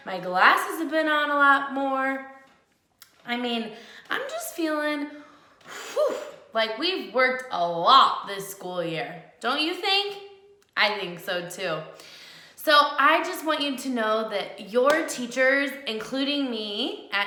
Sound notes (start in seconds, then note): 5.7 blows